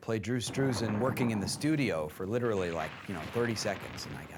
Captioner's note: thunderclap